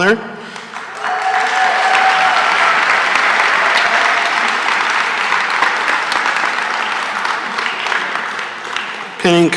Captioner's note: cheering and applause